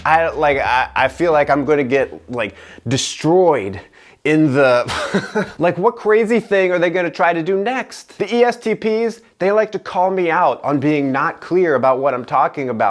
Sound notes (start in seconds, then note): 4.8 laughter